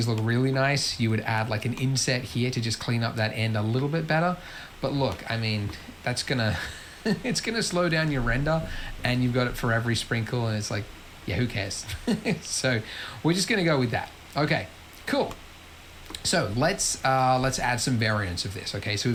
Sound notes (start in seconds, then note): 6.5 laughs; 11.9 laughs